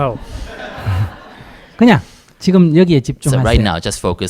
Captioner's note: audience laughs